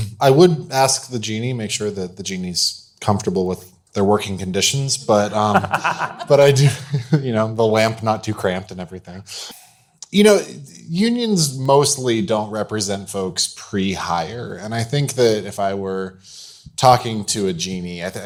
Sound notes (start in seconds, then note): 5.1 panelists laughing